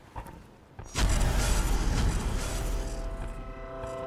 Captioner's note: zapping